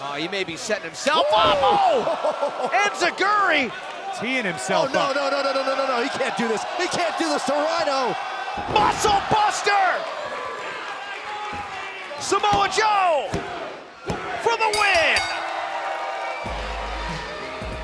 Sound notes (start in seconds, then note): 14.6 bell; 16.2 cheers & applause